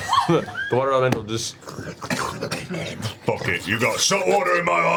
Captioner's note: gurgling growls